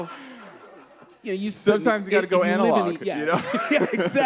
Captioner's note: laughter; laughs